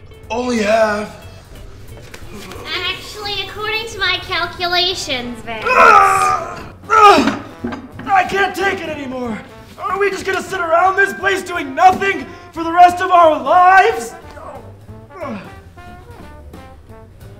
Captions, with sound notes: Only half. Actually, according to my calculations, Vince... [T.J. groans loudly] I can't take it anymore. Are we just gonna sit around this place doing nothing for the rest of our lives?